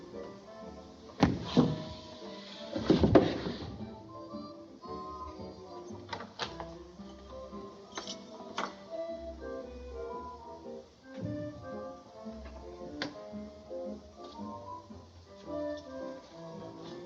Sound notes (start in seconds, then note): 1.2 thud